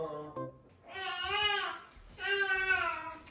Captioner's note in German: und das Baby weint vor Hunger